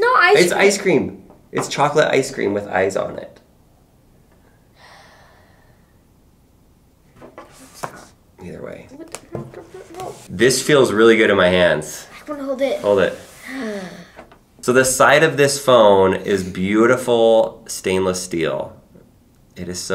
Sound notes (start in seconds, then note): 4.8 sighs; 9.1 mutters under breath; 13.5 gasps